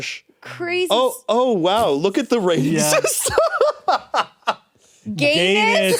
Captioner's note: laughs